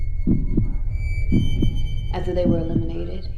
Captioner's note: heart beating